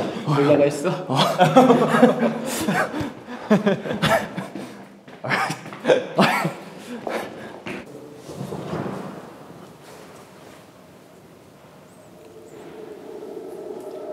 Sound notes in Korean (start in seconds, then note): 0.0 황당한 웃음; 3.3 웃음소리가 이어진다